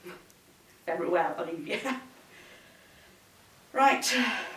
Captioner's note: chuckles